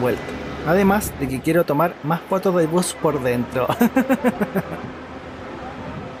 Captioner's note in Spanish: risas